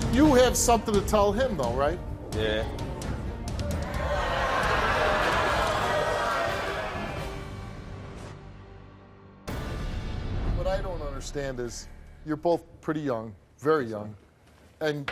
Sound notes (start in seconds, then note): 3.6 audience jeers